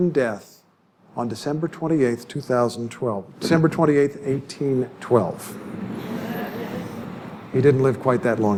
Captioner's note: laughter